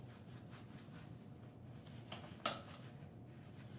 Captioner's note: wiping sounds